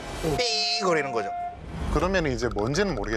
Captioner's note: beep